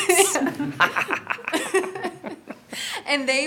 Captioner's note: exaggeratedly laughs